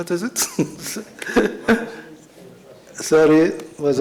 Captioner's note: laughs